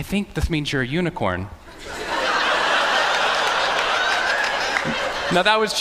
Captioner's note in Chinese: Laughter; 笑聲